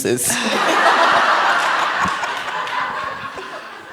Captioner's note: laughter